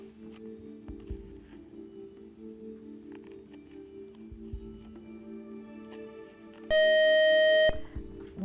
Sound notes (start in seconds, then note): 6.7 buzzer